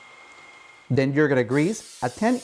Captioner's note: oil spraying